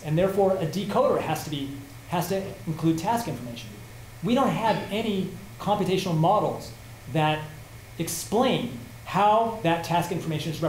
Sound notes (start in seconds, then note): none